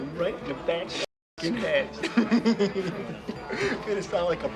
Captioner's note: laughs